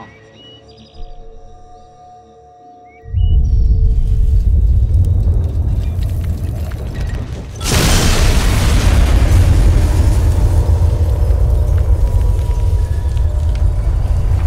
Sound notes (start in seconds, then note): 3.1 sound of approaching shockwave pushing trees and other things; 7.5 intense explosion with lots of glass followed by windy vacuum